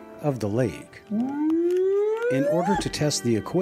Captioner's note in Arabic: صوت بيج فوت